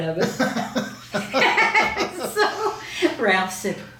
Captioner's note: both laughing